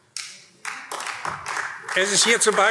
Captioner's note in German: Beifall AfD